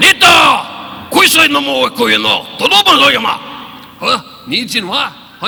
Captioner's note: all speaking in a foreign language